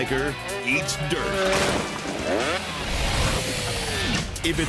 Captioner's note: bike crashes; motor revs